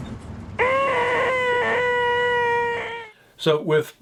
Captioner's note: humming sound